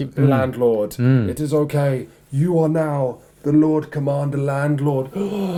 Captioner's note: breathy; gasps; agreeable murmurs